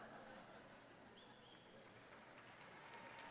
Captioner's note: applause